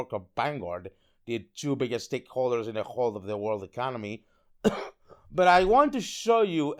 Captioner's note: ahem